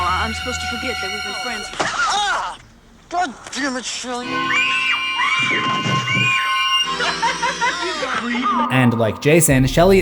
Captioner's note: laughter